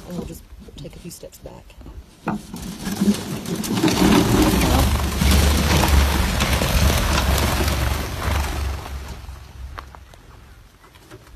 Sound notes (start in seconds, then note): 2.6 sounds of birds flying from an enclosure into the open air